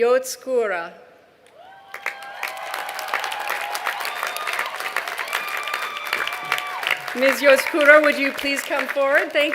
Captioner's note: cheers and applause